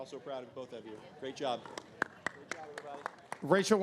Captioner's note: claps